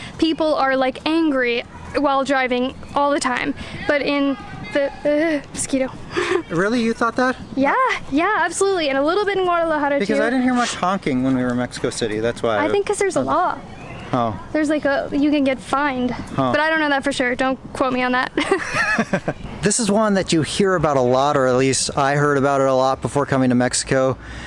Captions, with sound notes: People are like angry while driving all the time. Really, you thought that? Yeah. Yeah, absolutely! And a little bit in Guadalajara too. Because I didn't hear much honking when were in Mexico City, that's why. I think there's a law. Oh, like you can get fined, but I don't know that for sure. Don't quote me on that. (Laughs) This is one that you hear about a lot, or at least, I heard about it a lot before coming to Mexico and